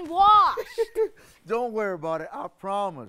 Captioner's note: laughs